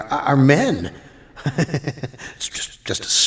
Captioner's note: laughs